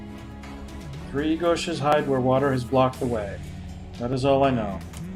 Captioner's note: humming along; humming along